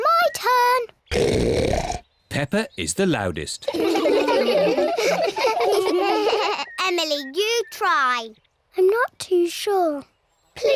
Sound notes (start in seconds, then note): 1.1 oinks; 3.6 all laugh